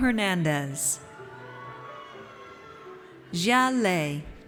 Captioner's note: audience cheers